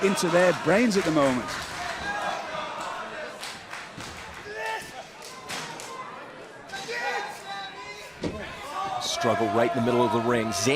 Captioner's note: crowd chatter